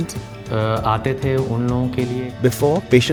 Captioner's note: speaking in foreign language